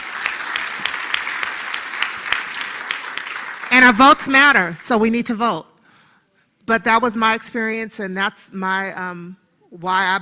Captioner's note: applause